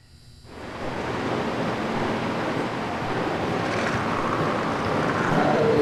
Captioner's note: machine whirring; critter chittering